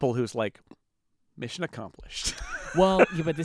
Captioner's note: laughs